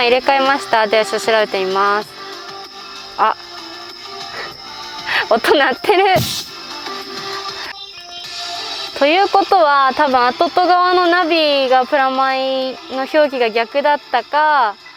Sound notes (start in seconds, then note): 4.3 laughs